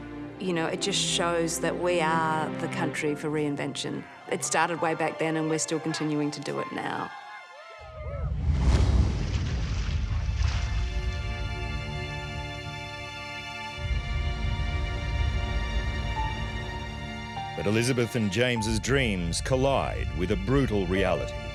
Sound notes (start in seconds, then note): 8.5 waves crashing; 11.5 dramatic music